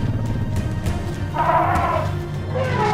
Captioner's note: animals calling; trumpeting